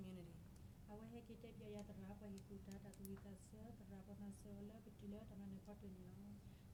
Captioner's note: speaking in foreign language